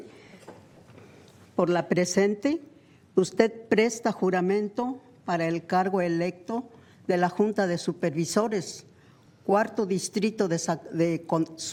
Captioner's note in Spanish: habla español